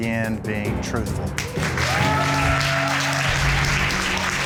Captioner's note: audience cheering